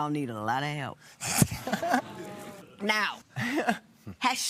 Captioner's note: laughter